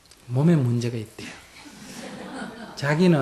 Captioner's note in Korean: 청중 웃음